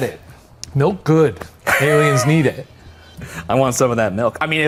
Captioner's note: laughs